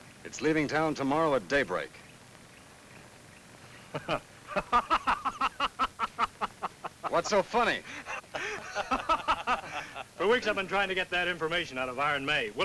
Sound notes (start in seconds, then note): 4.4 Frank laughs; 7.8 laughs